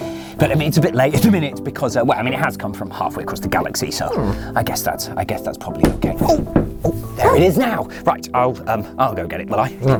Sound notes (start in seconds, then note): 5.7 knocking